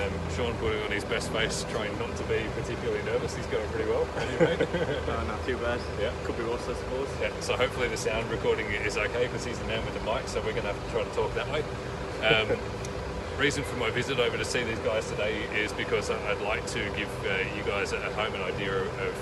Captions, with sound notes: Sean putting on his best face trying not to be particularly nervous, he's going pretty well. I'm not going too bad, could be worse I suppose. (laughs) Hopefully the sounds recording is OK because he's the man with the mic so we're going to have to try to talk that way The reason for my visit over this way to see these guys is because I would like to give you guys at home an idea of what